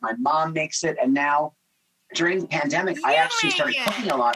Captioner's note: claps